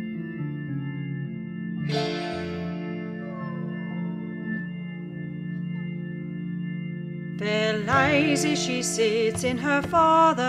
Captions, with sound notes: **ghostly cries** Fair Lizie she sits in her father's hall